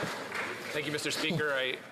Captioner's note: some Applause